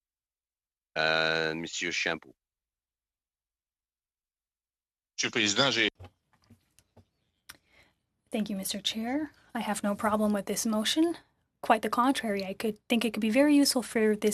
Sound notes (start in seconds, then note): 10.3 speaking French